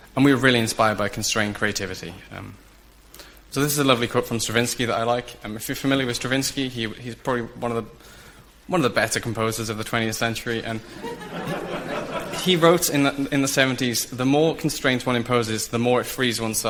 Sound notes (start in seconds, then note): 10.8 audience laughs